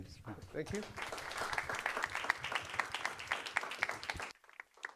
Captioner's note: applause